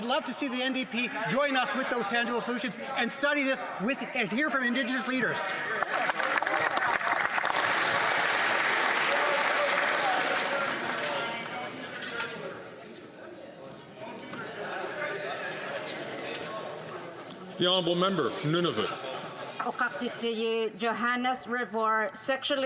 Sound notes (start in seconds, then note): 10.8 some Applause